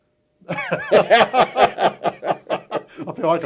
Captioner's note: laughter